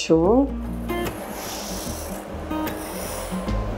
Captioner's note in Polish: dźwięk szurania ołówka na papierze